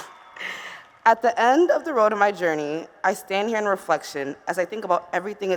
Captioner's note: cheers